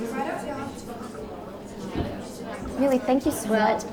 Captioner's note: people chattering